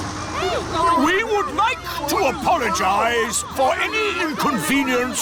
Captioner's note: all grumble